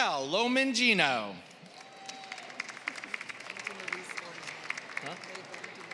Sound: applause

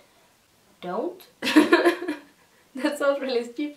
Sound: laughing

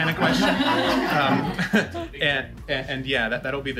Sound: laughter

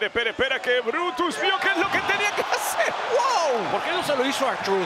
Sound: laugh

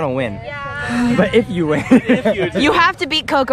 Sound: laughs; camerawoman laughs

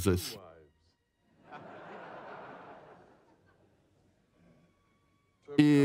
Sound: audience laughs

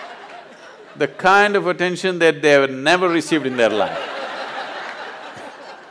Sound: laughter; laughter

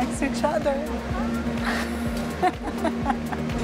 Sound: laughs

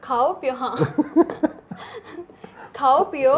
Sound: laughing loud

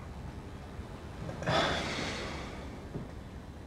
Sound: sighs

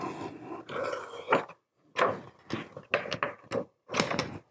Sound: plastic flexing

